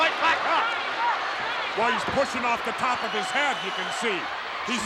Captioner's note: applause